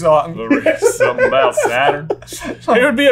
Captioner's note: laughter